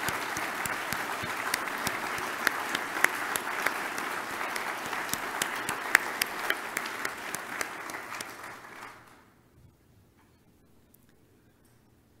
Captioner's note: audience applause